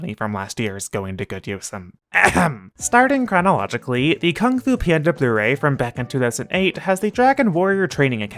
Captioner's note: ahem